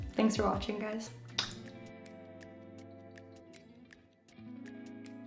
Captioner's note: blows kiss